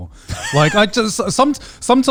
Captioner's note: laughs